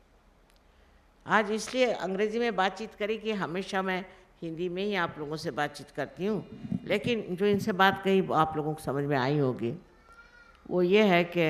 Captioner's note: Shri Mataji continues in Hindi